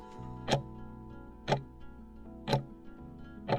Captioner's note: timer ticking